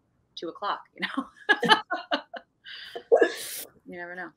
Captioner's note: both laughing